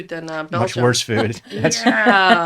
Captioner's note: laughing